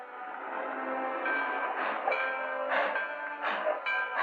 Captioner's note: train bell ringing